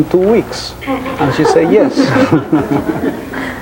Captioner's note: audience laughing; chuckles